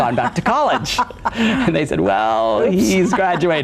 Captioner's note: laughs